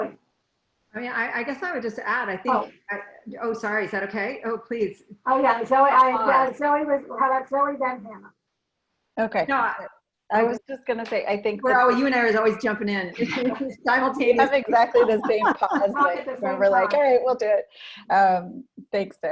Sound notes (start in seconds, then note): 14.2 laughing